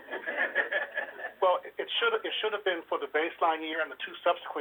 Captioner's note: laughter